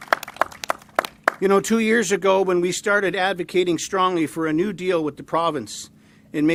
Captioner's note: applause